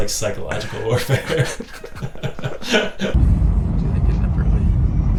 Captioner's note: both laughing